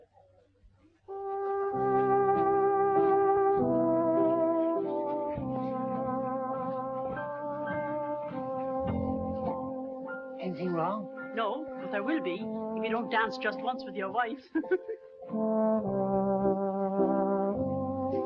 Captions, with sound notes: (gentle music) - Anything wrong? - No, but there will be, if you don't dance just once with your wife. (laughs) (gentle music)